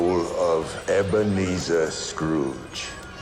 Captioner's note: ghostly voices clamor